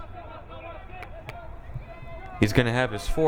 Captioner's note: crowd cheering